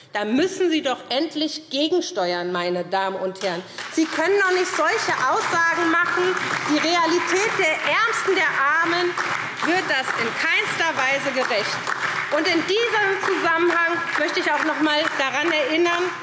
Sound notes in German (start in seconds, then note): 3.3 Beifall SPD und DIE LINKE